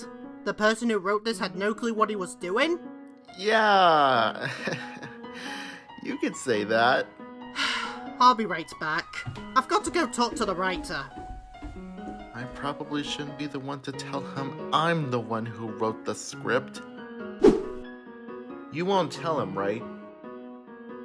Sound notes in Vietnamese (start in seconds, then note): 4.4 Cười ngượng; 7.6 Thở dài